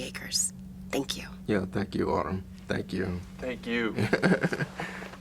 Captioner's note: laughs